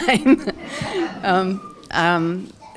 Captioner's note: laughter